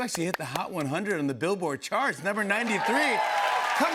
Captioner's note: cheers and applause